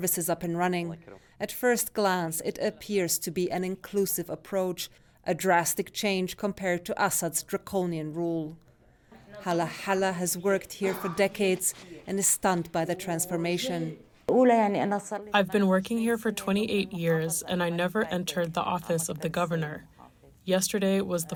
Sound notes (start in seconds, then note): 15.8 through translator